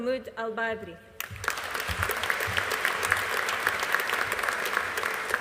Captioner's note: audience applauding